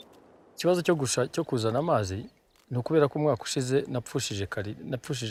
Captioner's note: speaking Kinyarwanda